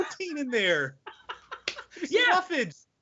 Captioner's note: laughing loudly